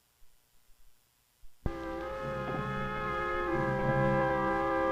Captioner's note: speaks in foreign language